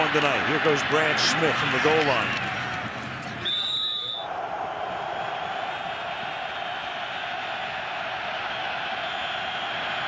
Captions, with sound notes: Will he have one tonight? Here goes Brad Smith from the goal line. [whistles] [cheering]